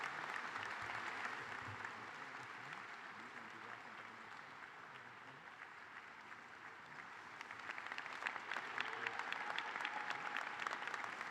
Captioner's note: applause